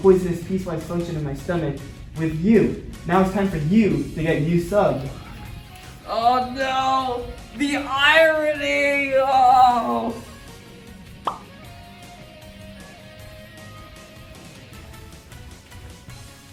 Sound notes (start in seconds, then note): 11.2 popping sounds